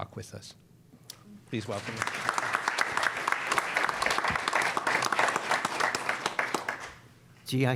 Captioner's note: applause